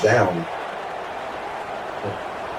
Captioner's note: crowd Noises